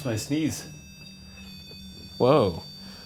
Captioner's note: continuous beeping